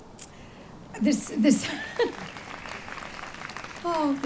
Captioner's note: audience claps; laughs